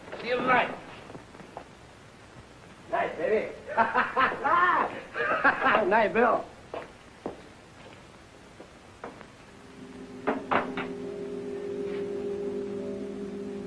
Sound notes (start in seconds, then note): 3.6 happy laughing; 10.8 soft orchestral music